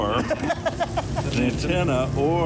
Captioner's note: volunteer laughing